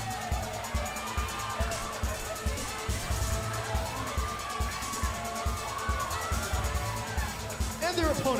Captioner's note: crowd cheering